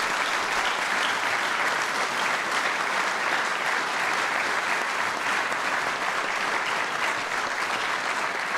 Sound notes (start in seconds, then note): 0.0 applause